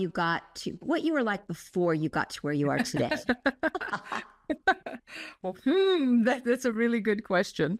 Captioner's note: laugh